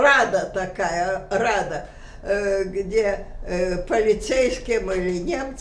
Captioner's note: russian